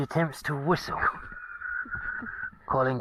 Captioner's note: whistle attempt